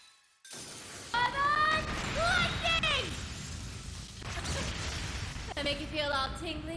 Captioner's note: S-Craft noises